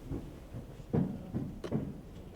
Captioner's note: footsteps